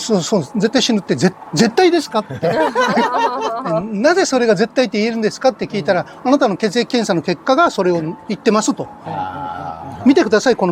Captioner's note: laughs